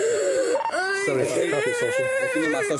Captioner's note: radio chatter